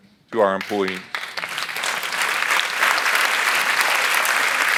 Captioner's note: audience applauds